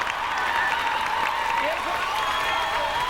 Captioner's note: all cheering